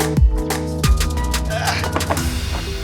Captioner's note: grunts